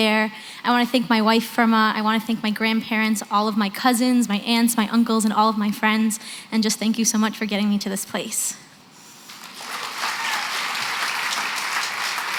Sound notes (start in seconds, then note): 9.3 applause